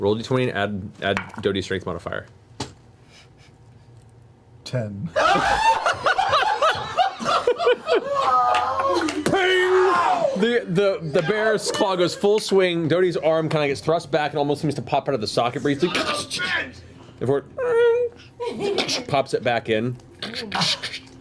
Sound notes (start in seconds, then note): 5.1 laughter